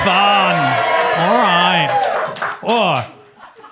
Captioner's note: audience cheers